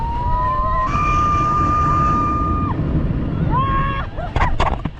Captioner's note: screaming with joy